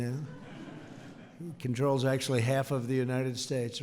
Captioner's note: laughter